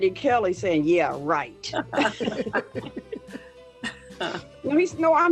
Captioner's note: laughing lightly